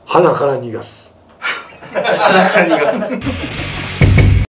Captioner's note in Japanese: 笑い